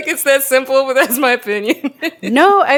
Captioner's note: laughs